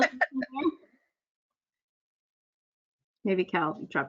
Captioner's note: laughs